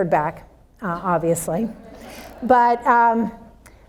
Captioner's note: audience laughs